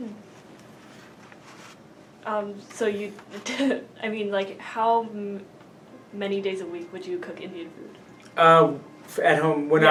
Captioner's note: laughs